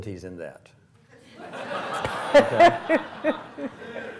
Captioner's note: laughs